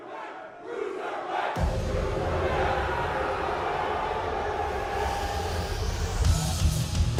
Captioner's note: crowd cheering